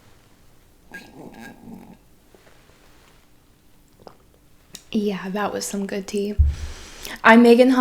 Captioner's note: sipping tea